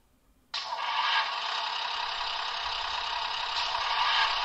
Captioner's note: motor noise is switched on